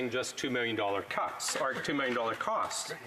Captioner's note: speaking Alternate Language